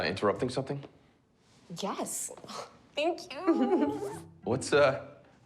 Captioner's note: laughing